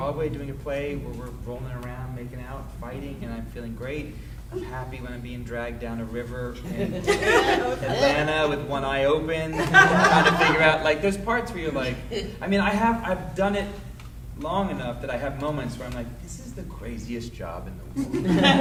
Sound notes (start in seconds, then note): 6.6 laughing drowns out speaker; 9.5 audience laughing